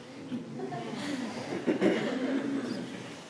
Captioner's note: laughter